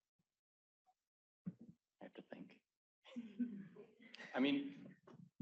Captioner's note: whispering